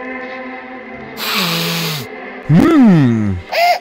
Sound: hard Sniff

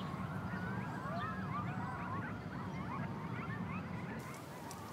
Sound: coyotes crying in the distance

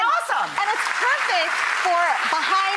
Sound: audience applause

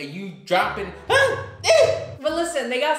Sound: shouting

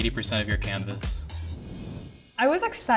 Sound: whooshing

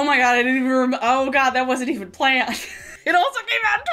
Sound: laughing

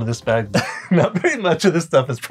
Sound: laughing

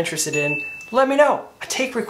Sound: bell dinging

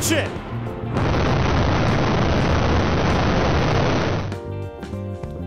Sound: slow motion rumbling

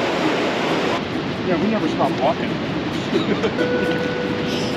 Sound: laughing

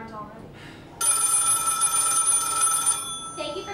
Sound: phone Rings

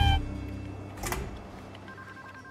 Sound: door slamming; phone ringing

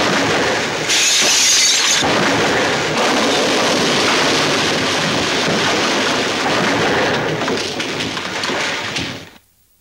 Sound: crash!!!; crashes continue

